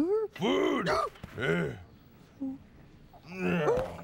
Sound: gasps

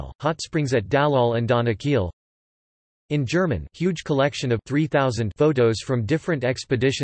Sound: in German

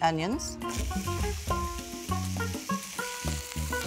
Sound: sizzling

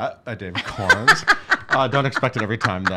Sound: laughing

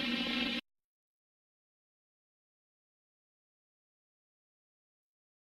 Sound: silence

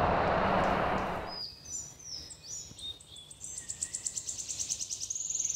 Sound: birds chirping

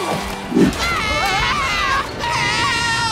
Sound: screaming

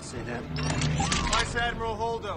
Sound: blasters charge up

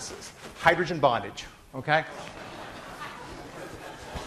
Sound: class laughing

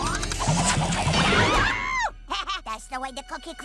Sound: yells; laughs

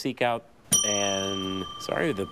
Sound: bell dings

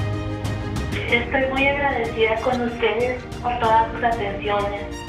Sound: speaking in Spanish

